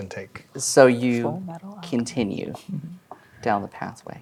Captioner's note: quietly